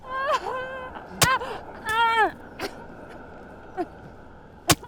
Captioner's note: knife stabbing